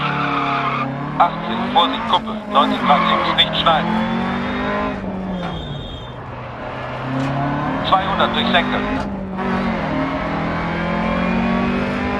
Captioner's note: engine sounds and co-pilot's instructions